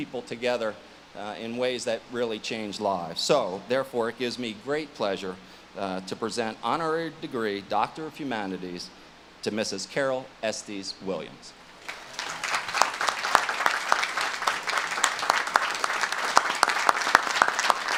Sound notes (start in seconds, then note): 11.8 audience claps